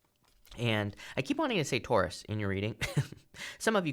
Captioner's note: chuckles